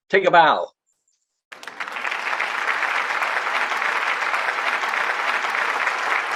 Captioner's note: applause